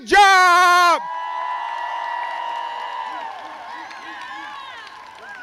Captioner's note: crowd cheers